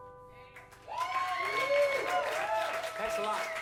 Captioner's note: applause